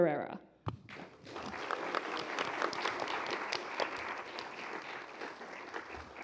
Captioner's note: applause